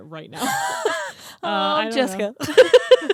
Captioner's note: both laughing